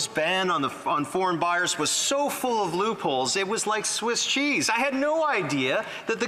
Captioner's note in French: voix de l'interprète